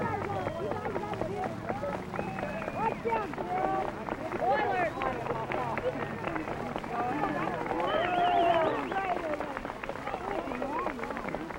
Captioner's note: applause and cheering